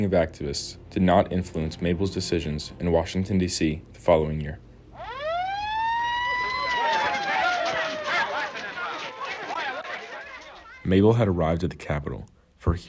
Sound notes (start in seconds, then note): 4.9 siren wailing; 6.3 people chattering